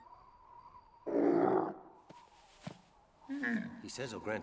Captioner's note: snorts